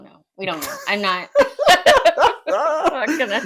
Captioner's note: laugh